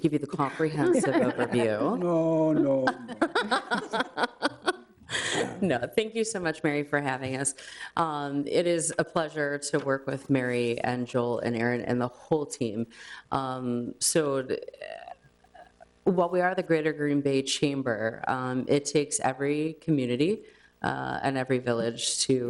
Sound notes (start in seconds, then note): 0.5 group laughs; 3.3 laughs